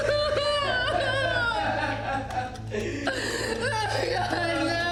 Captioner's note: Ben laughing; Mia crying